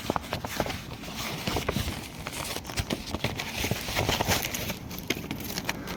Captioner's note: envelope rustles